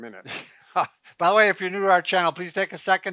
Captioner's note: laughs